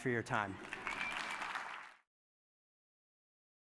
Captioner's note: applause